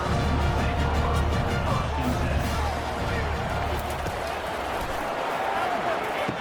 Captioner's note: crowd Noises